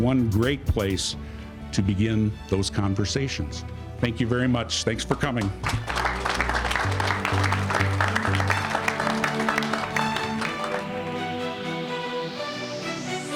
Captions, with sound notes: And I think this broadcast center will be one great place to begin those conversations. Thank you very much, thanks for coming. (all applauding)